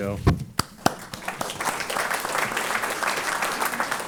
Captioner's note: applause